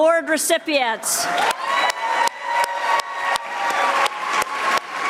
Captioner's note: audience applauding